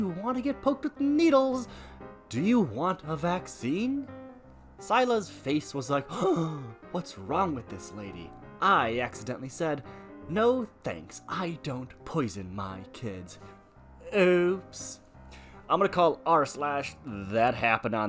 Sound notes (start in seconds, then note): 6.2 gasp